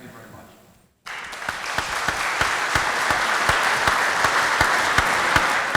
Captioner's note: applause